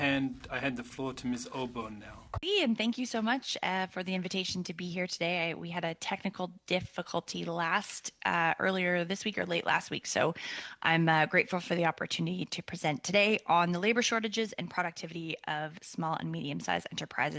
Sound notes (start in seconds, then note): 2.3 speaking French